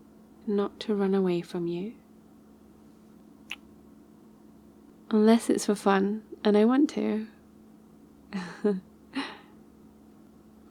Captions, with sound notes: not to run away from you *kiss* unless it's for fun and I want to * :P *